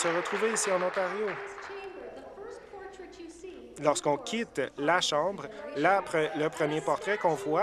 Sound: applause

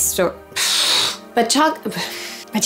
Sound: blows raspberries

